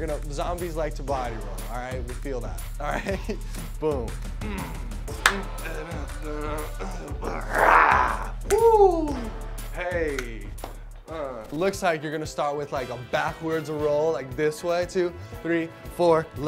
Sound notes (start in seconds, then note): 5.2 claps; 6.5 moaning